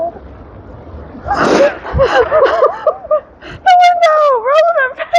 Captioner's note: laughing